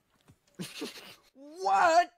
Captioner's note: snickers